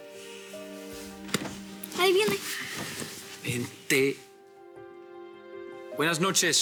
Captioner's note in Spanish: Ruido en la puerta